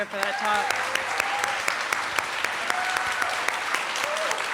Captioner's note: applause, cheering